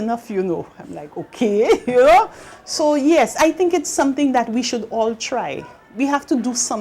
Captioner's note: ha-ha